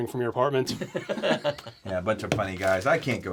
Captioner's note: Marty and Don laugh